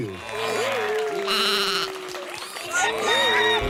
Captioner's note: applause